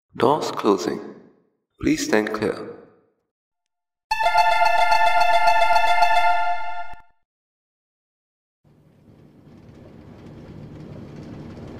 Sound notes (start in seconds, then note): 4.1 door Chime